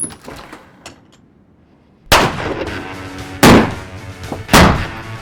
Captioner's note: gunfire